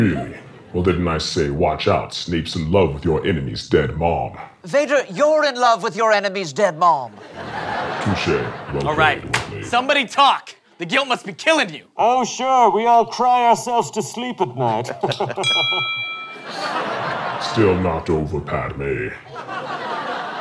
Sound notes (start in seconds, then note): 14.4 laughter; 15.1 ding